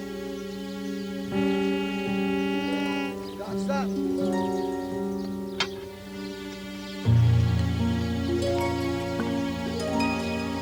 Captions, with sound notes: [beeping] We got something!